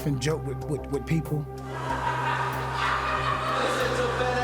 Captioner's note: laughing